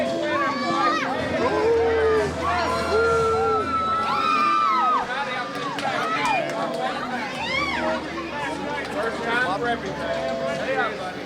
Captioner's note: crowd cheering